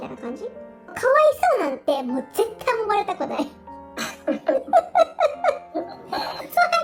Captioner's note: laughs